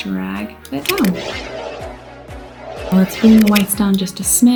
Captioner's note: dramatic music; whirring